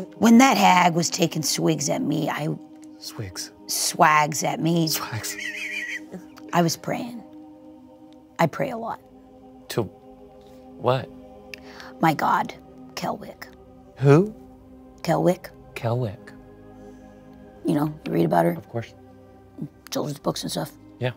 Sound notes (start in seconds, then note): 5.2 laughs